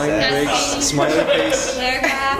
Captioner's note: laugh